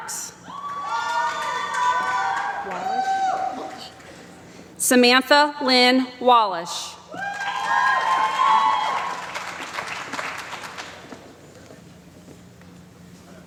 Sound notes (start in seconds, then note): 7.2 applause